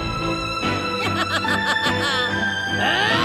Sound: laughs

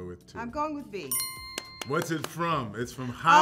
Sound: bell chimes

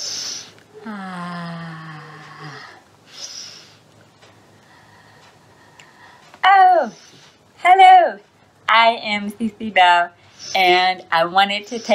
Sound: sniffs

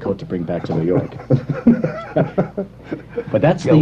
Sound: laughter

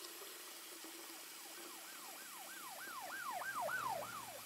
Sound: sirens blaring

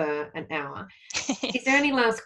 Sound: laughs

